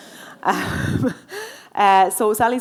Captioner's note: laughing; audience laughing